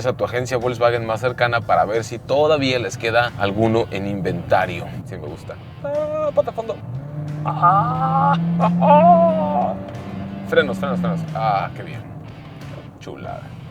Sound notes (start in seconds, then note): 9.0 laughs